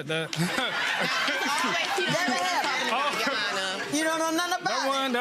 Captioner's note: laughing